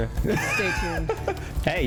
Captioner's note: laughs